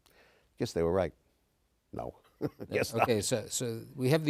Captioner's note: laughs